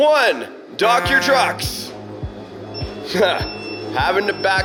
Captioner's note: beep; horn blows; laughs